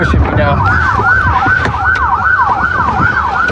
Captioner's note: sirirenens blblararing